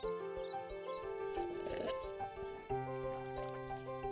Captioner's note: sipping